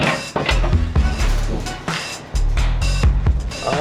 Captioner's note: metals clang